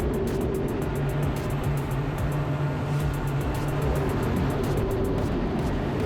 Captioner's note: engine continues droning; energetic music continues